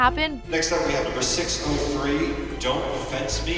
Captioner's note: cheers and applause; cheerful instrumental music playing